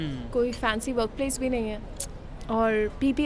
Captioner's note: clicks tongue